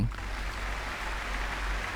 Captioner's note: applause